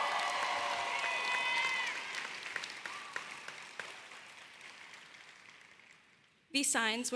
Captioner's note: applause